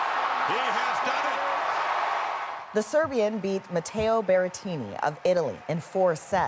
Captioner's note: cheers and Applause